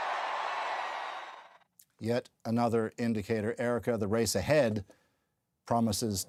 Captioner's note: cheers and Applause